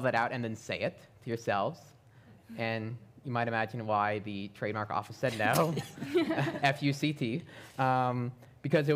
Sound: laughter

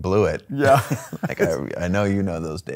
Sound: laughing

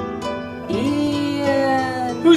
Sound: ghostly voice

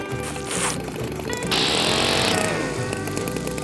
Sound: reef blower blows

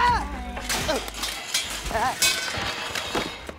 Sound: groaning

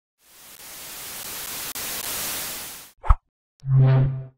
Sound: tv static

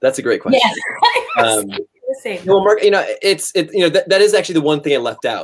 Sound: laughter

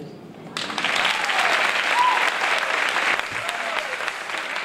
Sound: applause

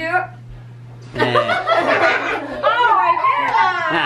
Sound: laughing

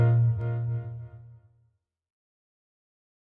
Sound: silence

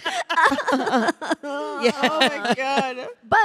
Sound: Samantha crying

